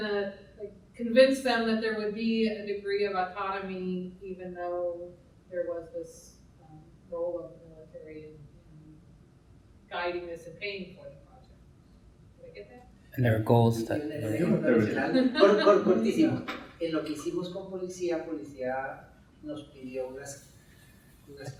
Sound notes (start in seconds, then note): 14.3 speaking in Spanish